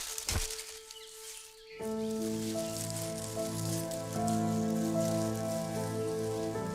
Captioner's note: leaves rustling; light music